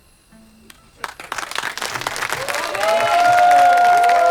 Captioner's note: crowd clapping